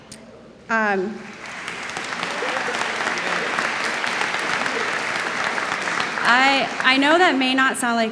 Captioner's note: applause